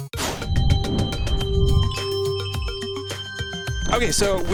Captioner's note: crystal chimes